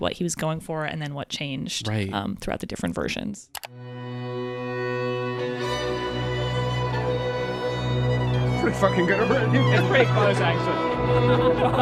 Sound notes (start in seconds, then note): 3.5 mouse clicking; 3.7 melancholy orchestral music; 11.5 all laughing